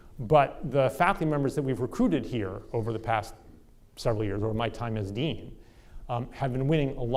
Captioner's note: none